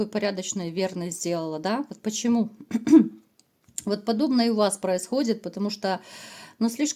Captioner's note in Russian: откашливается